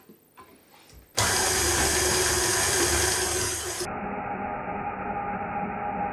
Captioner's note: machine whirrin